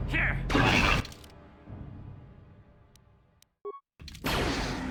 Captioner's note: silence